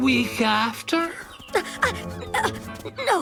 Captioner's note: grunting